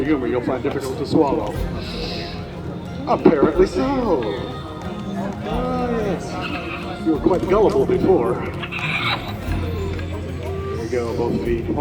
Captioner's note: bird squawks